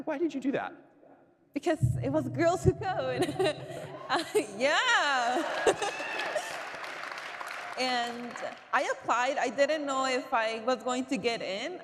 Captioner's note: cheering